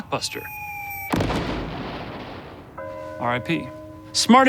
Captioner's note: loud explosion